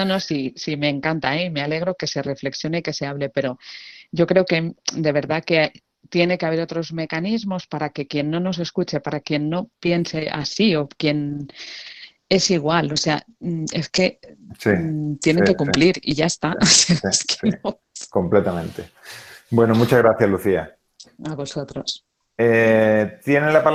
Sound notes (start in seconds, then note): 17.4 risas